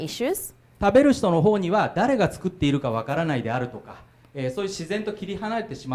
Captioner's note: speaking foreign language